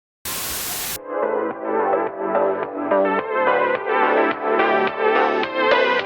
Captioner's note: TV hissing